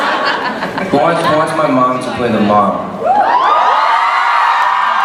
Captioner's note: screams